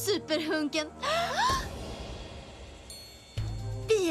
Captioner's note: gasps